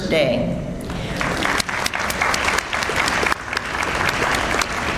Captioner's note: audience applauds